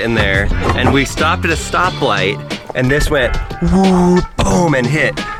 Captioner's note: exclaims